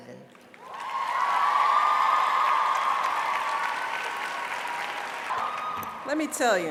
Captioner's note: applause